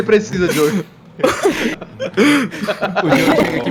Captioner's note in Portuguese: risadas